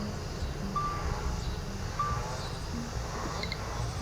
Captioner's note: device beeping